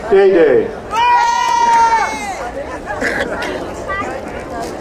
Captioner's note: crowd cheering